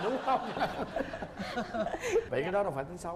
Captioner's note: laugh